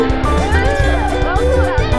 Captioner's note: Errrrrrhhh